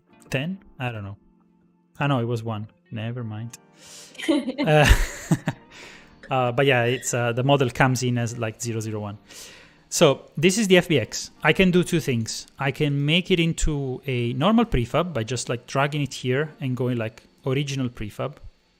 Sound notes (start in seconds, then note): 4.2 laughter